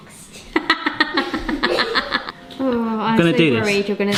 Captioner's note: laughing